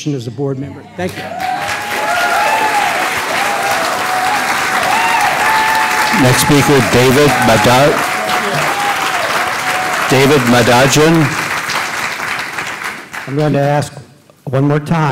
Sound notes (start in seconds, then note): 0.2 applause; 3.7 cheers and applause